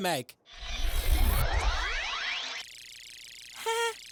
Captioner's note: camera-bot whirring; chuckles nervously